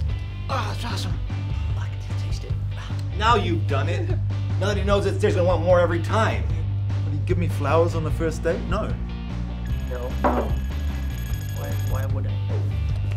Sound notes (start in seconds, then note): 9.6 pager ringing